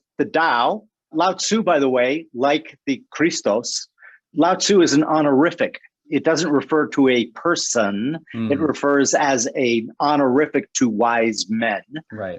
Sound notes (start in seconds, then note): 3.0 foreign language